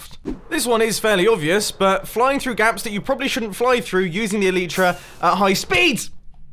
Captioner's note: panic noise